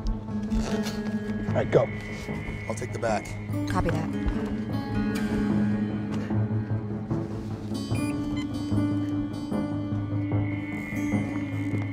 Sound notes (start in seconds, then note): 7.9 remote alarm beeps